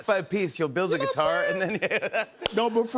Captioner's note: laughs